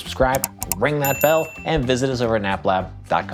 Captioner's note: mouse clicking; bell dings